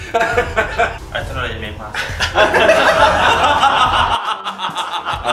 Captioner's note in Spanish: Risas